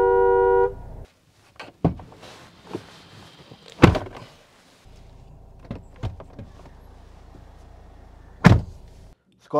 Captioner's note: door Thud